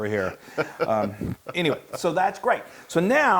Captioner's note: laugh